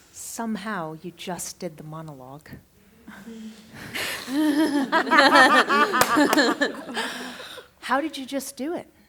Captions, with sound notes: Somehow you just did the monologue. [laughter] [claps] How did you just do it?